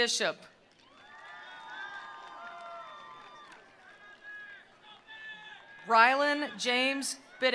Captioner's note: attendees applauding; attendees cheering